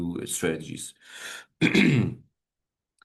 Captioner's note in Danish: clears throat